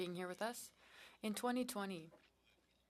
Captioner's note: speaking French